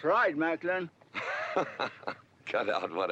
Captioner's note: GW laughing